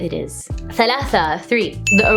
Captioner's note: foreign language